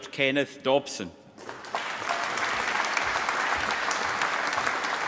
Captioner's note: applause